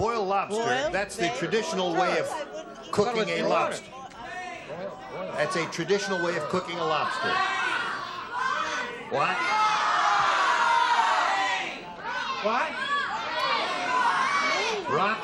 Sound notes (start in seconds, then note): 7.7 audience shouts; 12.7 audience shouts